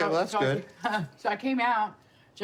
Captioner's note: laughs